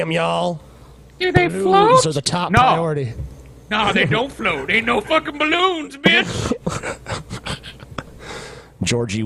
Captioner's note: in a high-pitched voice